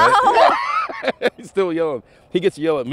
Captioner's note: laughter